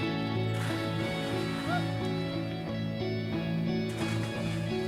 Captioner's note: water splashes